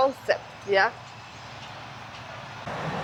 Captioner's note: car engine roaring